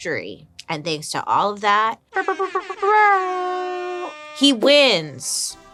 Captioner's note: mimics air horn blasting